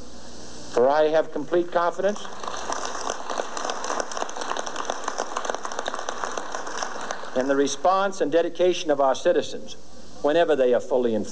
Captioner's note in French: applaudissements